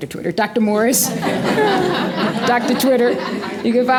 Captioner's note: laughter